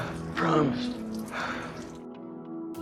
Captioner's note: Philip exhales